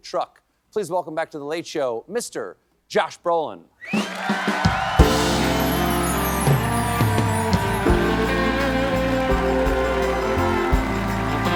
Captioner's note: cheers and applause